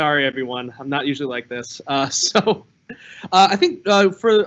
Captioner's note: chuckles